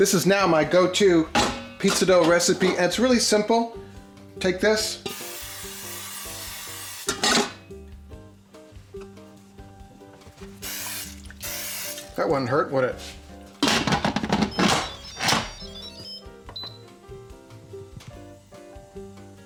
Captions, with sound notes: This is now my go to pizza dough recipe, and it's really simple. Take this. (oil can hisses) (oil can hisses) That wouldn't hurt would it. (machine beeps) (machine beeps)